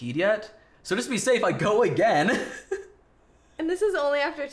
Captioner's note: laughs